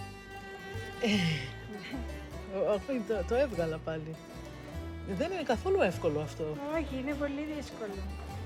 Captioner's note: speaking in Greek